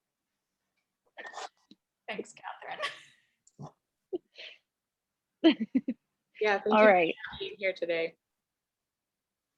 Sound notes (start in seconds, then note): 3.3 woman laughs